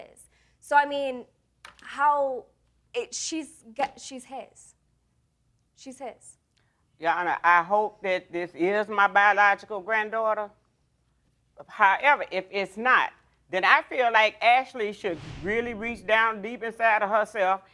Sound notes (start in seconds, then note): none